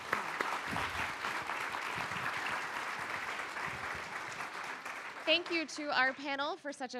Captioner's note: applause